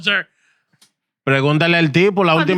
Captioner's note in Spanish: Hablando en idioma extranjero